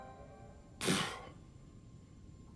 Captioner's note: exhalation